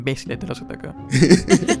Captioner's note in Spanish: risas